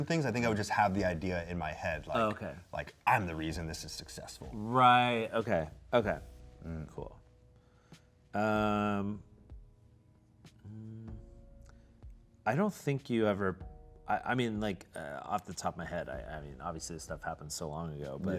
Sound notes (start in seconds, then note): none